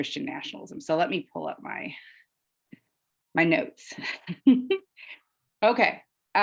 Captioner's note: chuckles